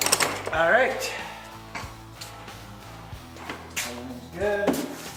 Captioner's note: clanking